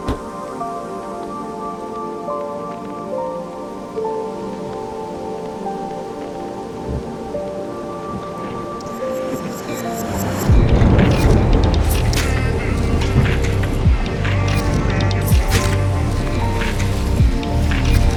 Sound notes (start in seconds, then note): 0.0 car door thuds; 9.2 upbeat music; 10.5 wind gusting